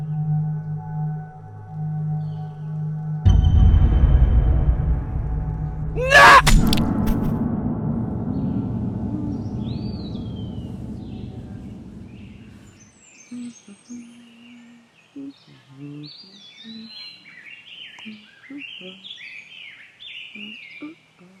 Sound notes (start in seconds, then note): 0.2 tense music continues; 3.2 menacing music; 6.0 ax chops; 8.0 Betsy humming; 18.0 humming continues